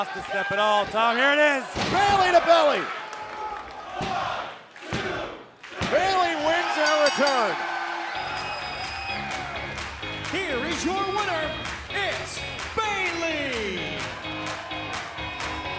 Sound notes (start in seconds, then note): 4.3 bell ringing